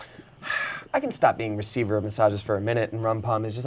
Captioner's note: sighs